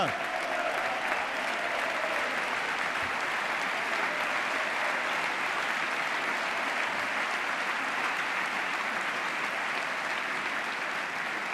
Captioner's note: applause